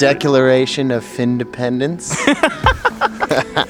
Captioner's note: laughter